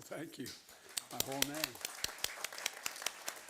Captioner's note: applause